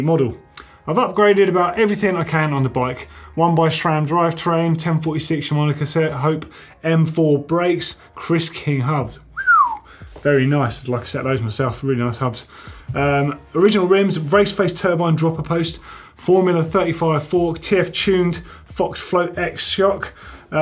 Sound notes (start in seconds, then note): 9.3 whistling